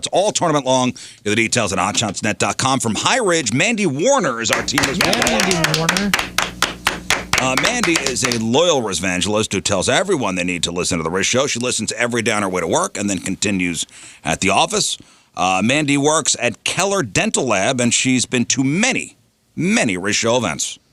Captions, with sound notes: All tournament long. The details on hotshotsnet.com from High Ridge. Mandy Warner is our team. Yeah, Mandy Warner. (clapping) Mandy is a loyal resvangelist who tells everyone they need to listen to the res show. She listens every down her way to work and then continues at the office. Mandy works at Keller Dental Lab and she's been to many, many res show events.